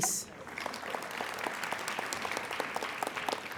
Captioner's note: applauding